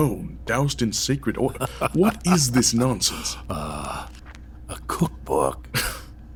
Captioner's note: laughing